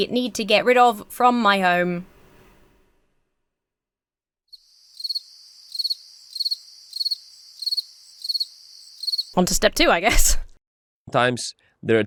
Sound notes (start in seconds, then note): 4.5 crickets chirping; 10.0 chuckles